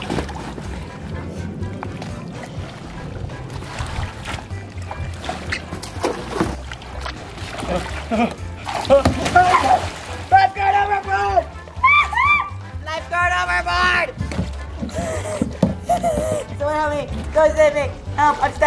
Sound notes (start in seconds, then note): 0.3 water splashing; 8.7 exclaims; 11.7 squeaks; 14.8 gasps